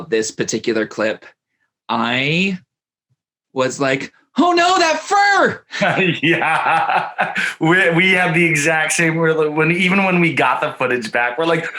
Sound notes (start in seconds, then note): 5.6 laughs happily